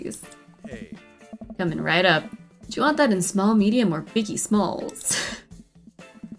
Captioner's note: laughs